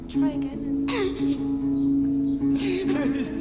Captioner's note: sobs